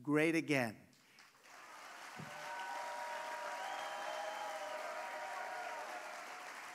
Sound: applause

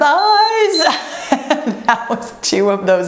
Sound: timer beeps

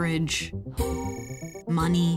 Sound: phone ringing

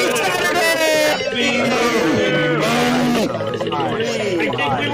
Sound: everyone Yelling And Talking Over Each Other

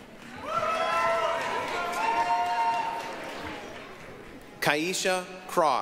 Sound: applause, cheering

